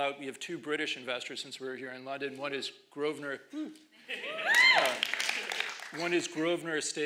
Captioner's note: applause